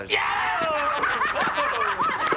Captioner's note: laughter and cheering